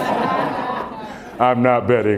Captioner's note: laughter